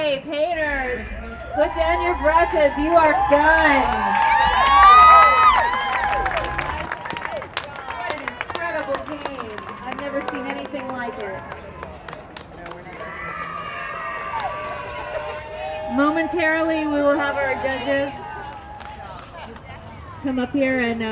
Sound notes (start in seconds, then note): 3.7 cheering